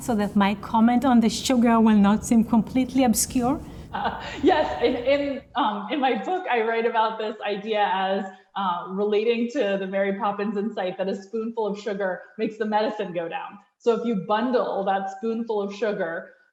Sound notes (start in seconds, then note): 3.9 laughs